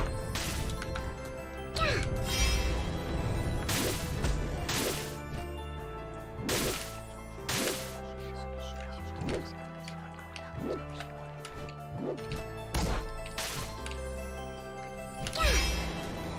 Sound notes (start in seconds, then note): 8.0 creepy whispers